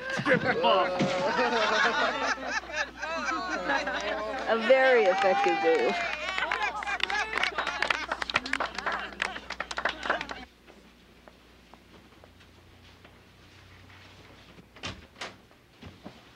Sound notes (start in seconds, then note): 2.0 women cheering; 3.0 women clapping